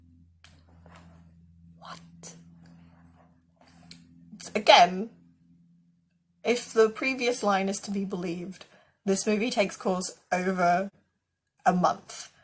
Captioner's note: whisper